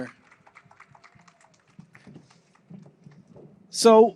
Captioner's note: applause